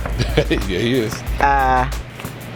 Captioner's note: laughs